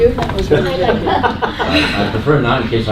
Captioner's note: laughter